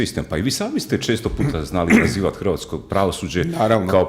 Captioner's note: coughs